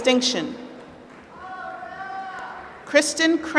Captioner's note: applause